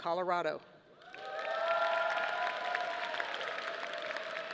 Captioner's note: audience applauding